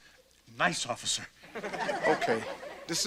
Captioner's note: audience laughter